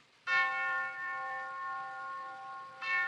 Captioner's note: clock chiming